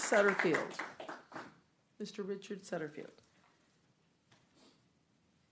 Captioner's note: clapping